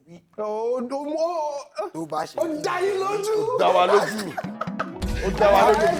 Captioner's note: laughs